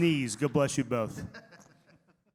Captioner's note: laughs